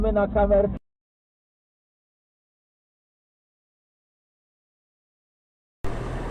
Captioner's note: even more silence